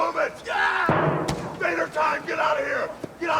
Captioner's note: Sting screams